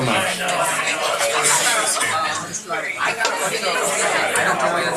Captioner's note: crowd chattering loudly